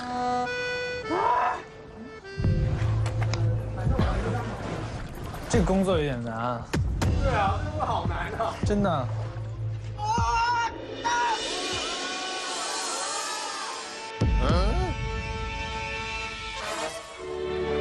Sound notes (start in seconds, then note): 10.6 A screaming in the air